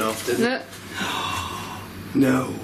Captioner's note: gasps